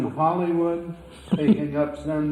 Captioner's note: laughs